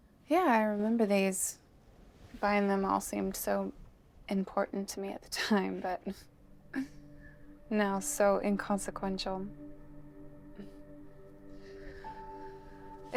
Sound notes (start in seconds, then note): 6.2 laughs; 10.1 mysterious music